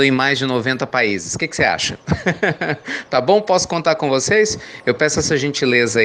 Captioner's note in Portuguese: Risos